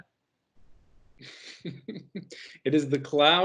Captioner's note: laughing